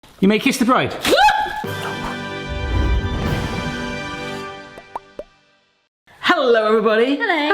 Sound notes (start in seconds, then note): 1.1 yelps; 1.6 dramatic fanfare music